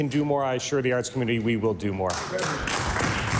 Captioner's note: applause